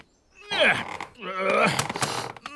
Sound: grunts

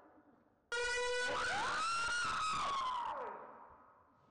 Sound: slow motion scream

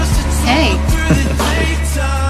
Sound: laughs

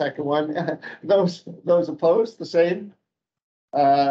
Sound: chuckling

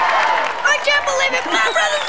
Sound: cheering

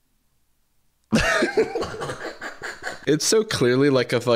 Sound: dumbfounded silence; laughter

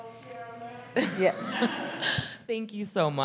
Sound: laughter

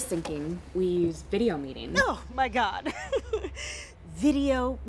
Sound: laughs

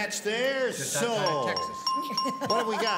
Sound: chime sounds

